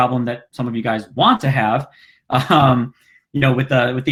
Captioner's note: chuckles